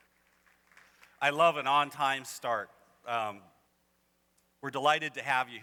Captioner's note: applause